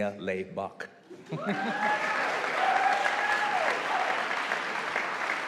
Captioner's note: audience applauding